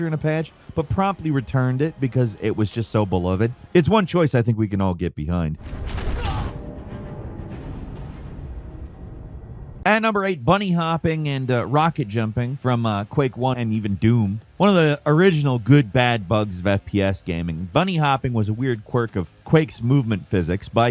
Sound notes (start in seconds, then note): 6.1 character grunts; 7.1 suspenseful music